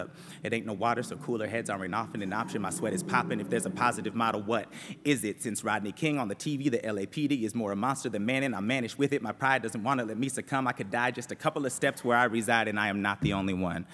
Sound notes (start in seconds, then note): none